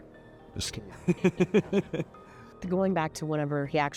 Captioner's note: laughing